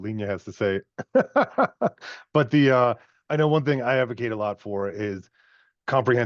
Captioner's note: laughs